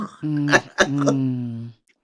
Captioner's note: laughs